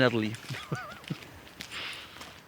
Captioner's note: chuckles